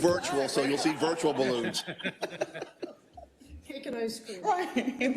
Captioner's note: laugh